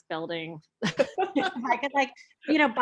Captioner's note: laughing